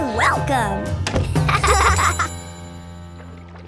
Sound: laughing

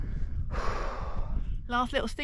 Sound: huff

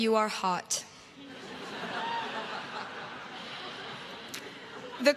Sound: crowd laughs

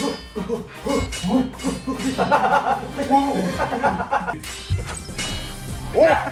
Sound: intensely exchanging slaps

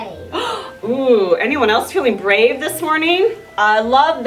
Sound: gasps

